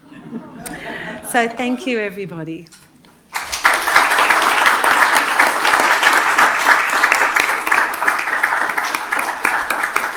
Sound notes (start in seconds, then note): 0.0 audience laughs; 3.3 audience applauding